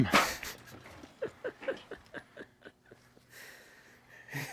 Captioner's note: chuckles